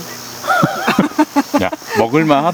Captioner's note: laughs